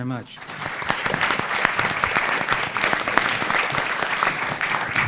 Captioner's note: audience applauding